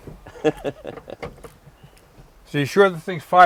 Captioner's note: laughing